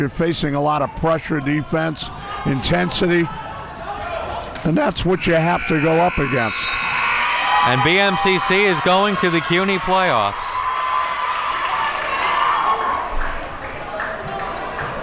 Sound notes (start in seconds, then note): 5.3 whistle blows; 5.6 buzzer buzzes